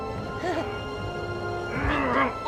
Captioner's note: bucky giggling